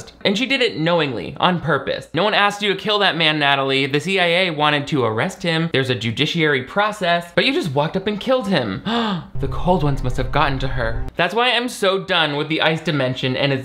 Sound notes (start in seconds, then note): 8.9 gasps